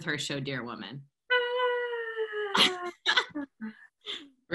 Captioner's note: laughter